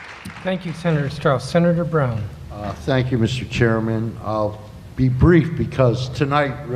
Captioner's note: applause